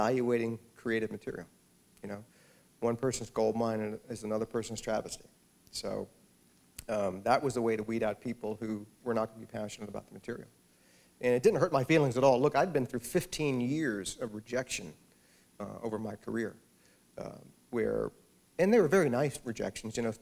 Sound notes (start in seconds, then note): none